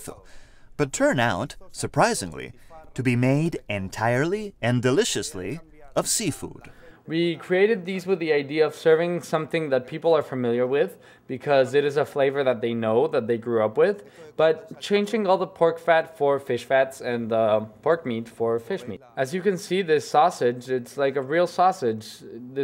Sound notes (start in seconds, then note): 6.9 chef voice over